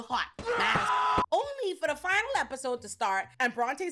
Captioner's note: screaming